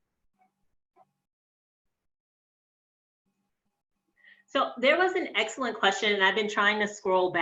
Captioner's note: long Pause